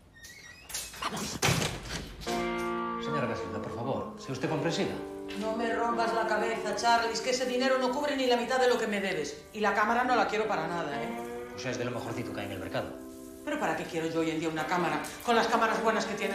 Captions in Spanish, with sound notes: ¡Vamos! (VOZ DE HOMBRE EN OFF) Señora Casilda, por favor, sea usted comprensiva. (VOZ DE MUJER EN OFF) -No me rompas la cabeza, Charlies, que ese dinero no cubre ni la mitad de lo que me debes. Y la cámara no la quiero para nada. -Es de lo mejorcito del mercado. -¿Para qué quiero yo una cámara con las que tienen los móviles?